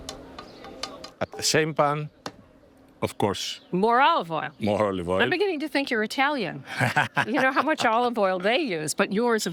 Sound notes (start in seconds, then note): 0.1 pan clanging; 6.6 laughing